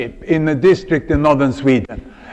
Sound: laughter

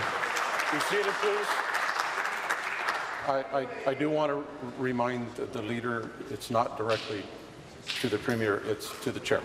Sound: applause

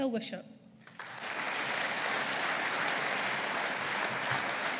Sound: audience applauding

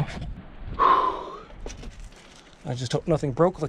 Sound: sighs

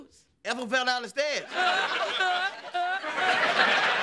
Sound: laughing

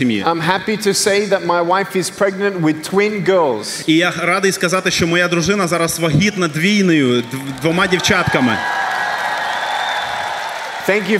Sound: applause

